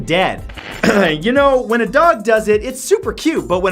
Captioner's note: clears throat